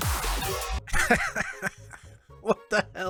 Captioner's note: laughter